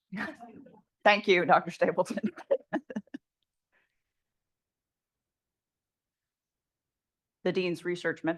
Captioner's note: chuckles